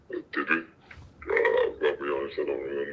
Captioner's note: altered male voice